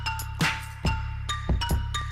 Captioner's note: whip